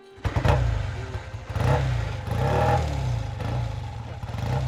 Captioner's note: engine revving